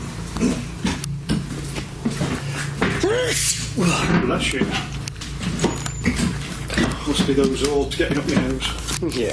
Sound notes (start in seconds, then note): 3.0 loud sneezing